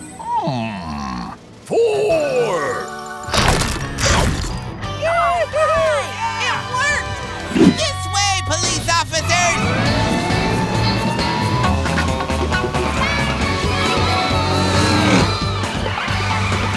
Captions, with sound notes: Hmm, four! [chomping] -All right! -It worked! This way police officers! [sirens wailing]